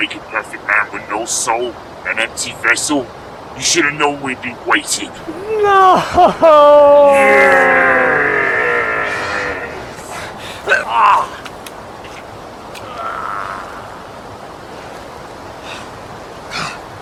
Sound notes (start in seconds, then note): 10.7 both grunting